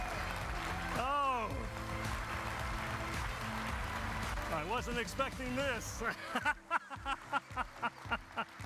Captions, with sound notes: I wasn't expecting this. (laughs)